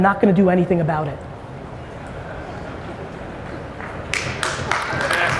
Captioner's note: audience applauds